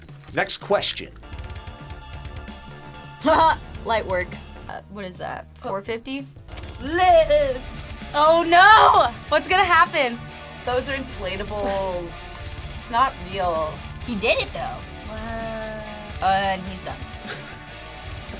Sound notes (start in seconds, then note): 1.5 rock music; 3.5 laughs; 17.2 laughs